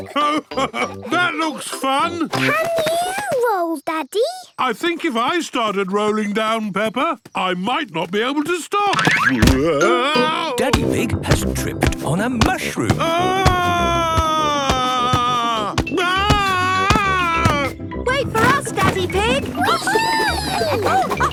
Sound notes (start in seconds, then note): 13.2 shouting